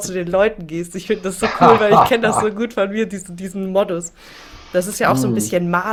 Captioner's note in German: gelächter